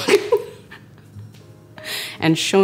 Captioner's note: laughing